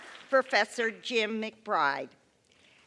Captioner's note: applause